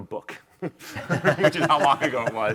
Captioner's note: laughing